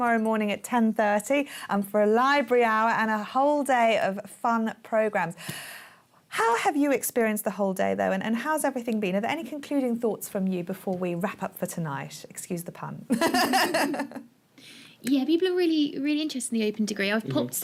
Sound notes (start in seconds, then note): 13.1 laughter